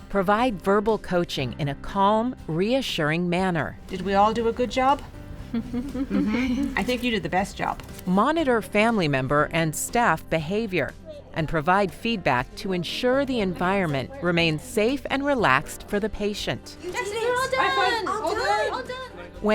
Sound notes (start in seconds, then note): 6.0 laughing